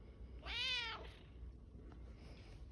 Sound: cat meows

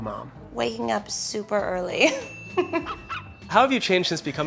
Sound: bell dings

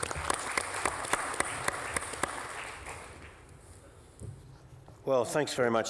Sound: applause

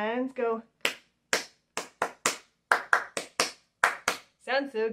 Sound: clapping

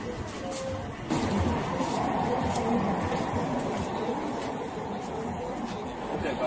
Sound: background traffic noise

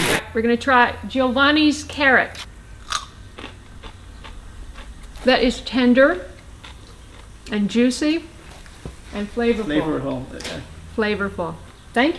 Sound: crunch

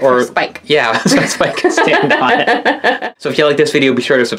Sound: laughs

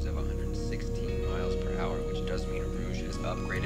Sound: radio Announcer

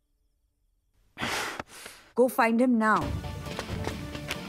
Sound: gasps

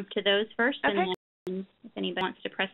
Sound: voiceover

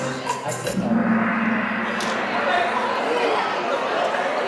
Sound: gong bangs

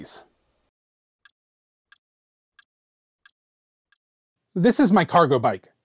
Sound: ticking sound

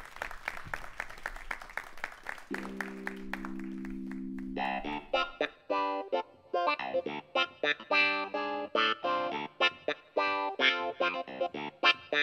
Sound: applause

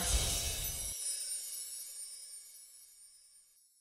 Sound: enchanting sound

